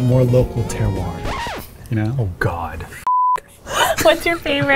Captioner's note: record scratching; beeps